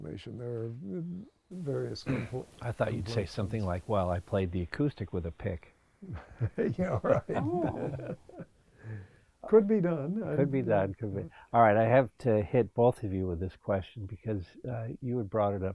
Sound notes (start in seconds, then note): 6.0 laughs